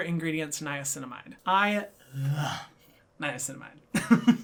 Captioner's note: laughs